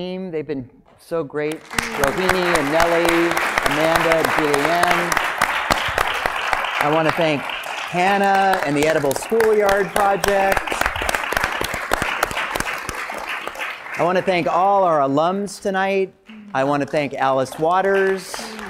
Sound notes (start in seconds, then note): 1.8 applause; 10.6 applause; 17.3 applause